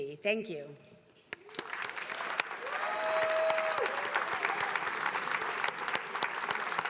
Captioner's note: attendees applauding